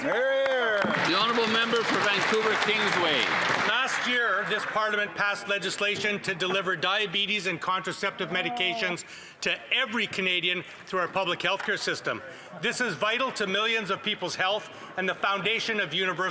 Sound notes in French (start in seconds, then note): 7.6 voix de l'interprète